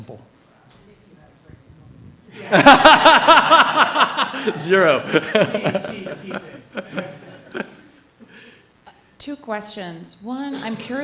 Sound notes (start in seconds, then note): 2.4 laughs